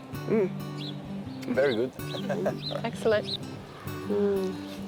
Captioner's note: chuckles